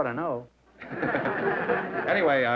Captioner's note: laughter